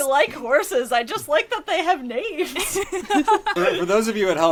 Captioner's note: laughs